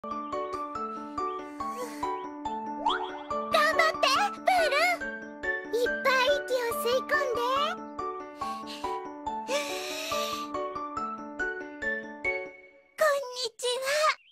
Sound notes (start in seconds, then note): 9.5 inhales deeply